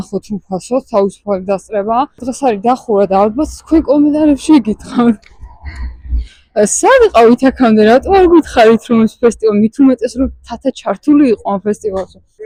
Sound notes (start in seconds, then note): 5.6 giggle